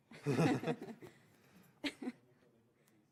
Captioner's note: laughs